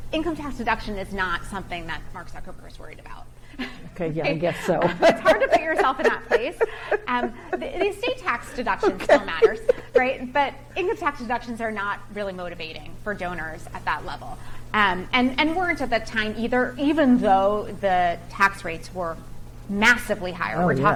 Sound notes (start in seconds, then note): 4.4 chuckles; 4.9 laughs